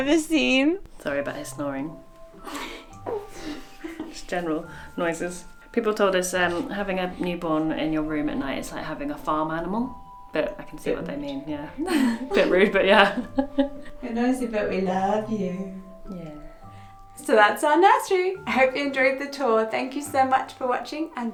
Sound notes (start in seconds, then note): 2.4 coos; 2.4 chuckles; 11.8 chuckles